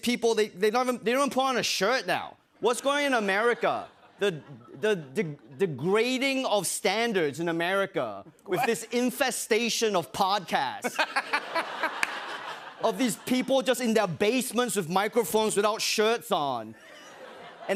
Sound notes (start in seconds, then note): 10.8 laughter